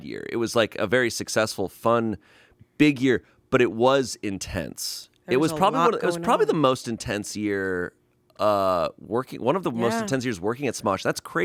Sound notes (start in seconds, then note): none